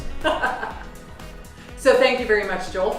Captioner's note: laughing